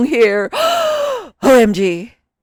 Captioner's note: gasp